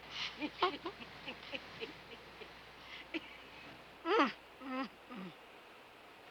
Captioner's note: laughing